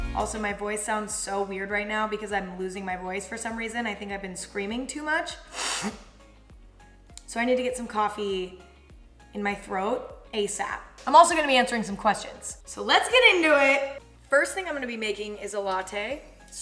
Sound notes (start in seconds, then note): 5.4 sniffs forcefully